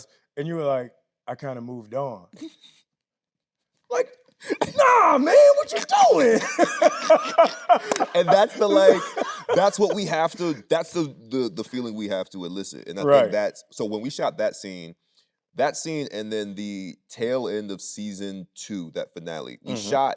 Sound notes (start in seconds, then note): 2.7 Tyler chuckling; 6.7 both laughing